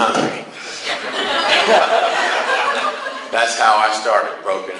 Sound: class laughs

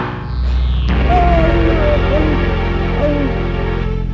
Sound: groans

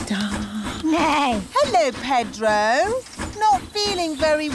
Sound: neighs

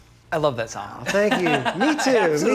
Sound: laughing

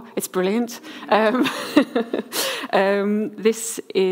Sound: laughs

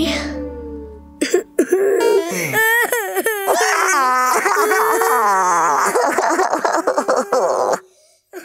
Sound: sobbing

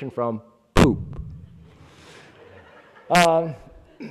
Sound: laughing

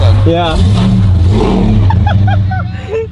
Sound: laughs

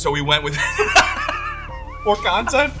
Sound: laughs

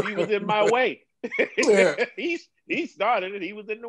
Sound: laughter

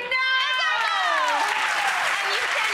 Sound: audience applauds

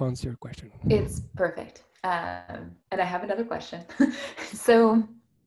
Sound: giggles

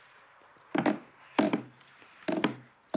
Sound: creaks

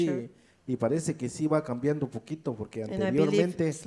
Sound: speaks in foreign language

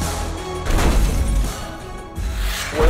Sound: vehicle thuds, glass shatters

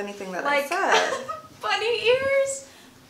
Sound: laughs

